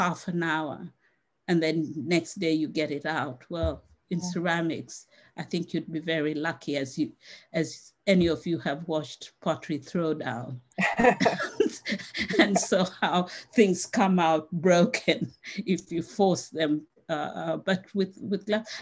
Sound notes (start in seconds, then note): 10.8 laughs